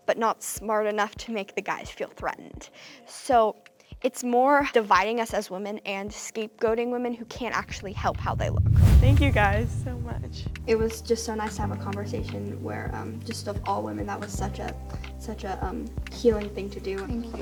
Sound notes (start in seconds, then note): 7.5 percussive whoosh